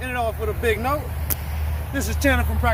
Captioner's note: sling hits ground